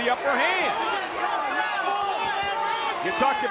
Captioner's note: audience chattering